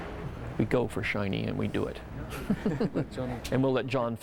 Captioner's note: chuckles